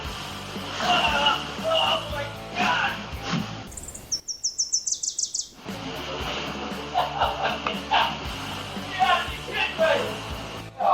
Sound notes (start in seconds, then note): 3.6 birds chirping; 6.8 laughing